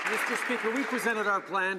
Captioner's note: some Applause